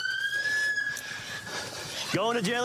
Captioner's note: beeps